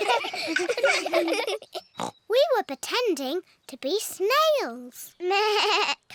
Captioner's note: all laugh; oinks; bleats